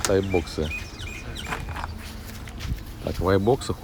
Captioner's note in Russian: щебетание птиц